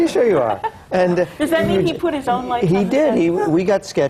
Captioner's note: laughs